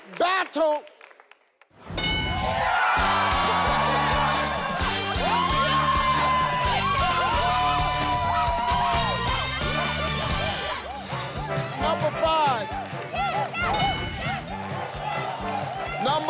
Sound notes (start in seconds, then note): 2.7 audience cheers; 6.3 upbeat music